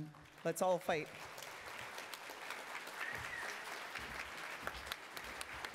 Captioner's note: attendees applauding